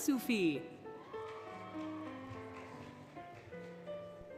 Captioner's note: applause, Cheering, Music